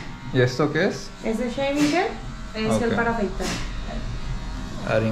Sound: speaking in Spanish

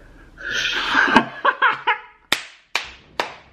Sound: laughter

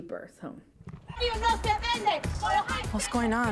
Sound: chanting in Spanish

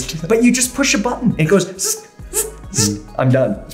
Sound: imitating gear change sounds

